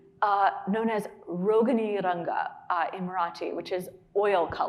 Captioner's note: speaking in Marathi